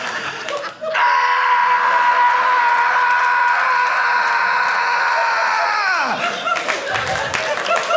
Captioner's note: screaming; audience laughing